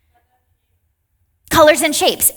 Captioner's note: participant faintly speaking